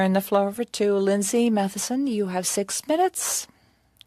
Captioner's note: speaking French